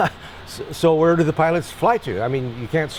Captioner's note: laughs